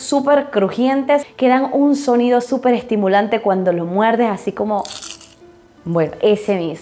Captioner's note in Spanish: sonido crujiente